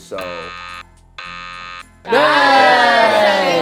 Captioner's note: buzzer; cheers